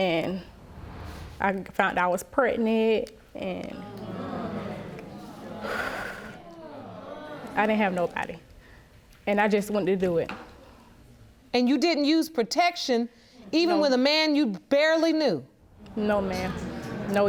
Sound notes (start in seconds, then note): 0.2 audience groans; 4.0 sighing